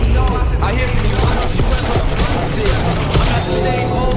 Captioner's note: gun firing